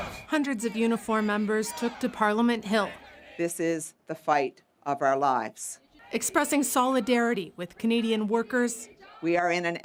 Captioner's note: chants